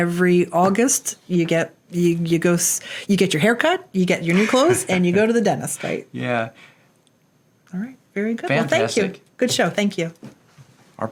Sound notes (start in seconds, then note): 4.2 laughs